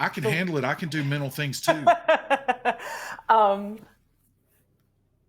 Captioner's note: laughing